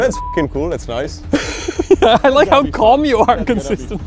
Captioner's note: laughs